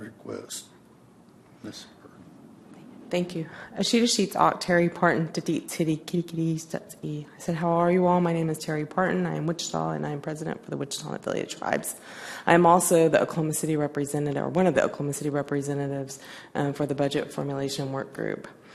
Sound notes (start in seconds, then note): 4.0 native American language